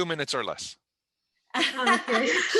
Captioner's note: laughter